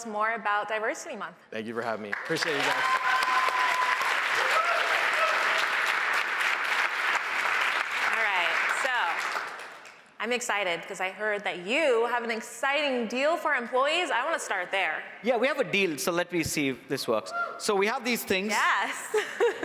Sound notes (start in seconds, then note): 6.8 cheers and applause